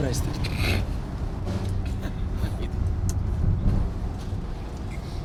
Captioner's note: chuckle